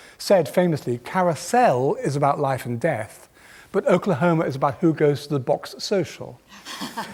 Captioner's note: laughter